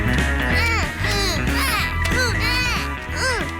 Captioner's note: both grunting